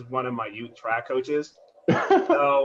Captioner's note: laughter